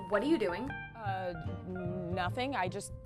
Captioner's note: humming